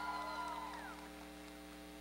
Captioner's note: cheering